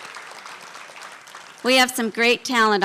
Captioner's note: applause